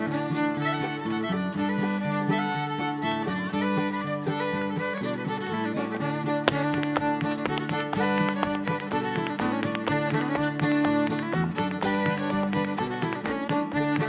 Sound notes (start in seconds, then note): 5.7 rhythmic tap dancing; 9.5 bright folk music continues